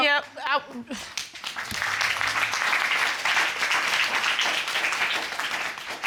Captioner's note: applause